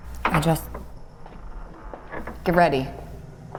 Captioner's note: door creaks